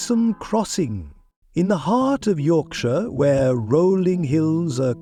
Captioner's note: low and mysterious